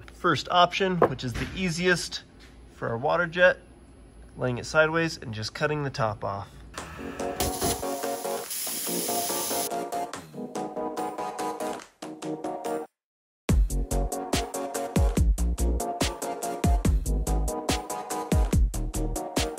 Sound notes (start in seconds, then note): 7.3 water jet hisses; 10.4 groovy music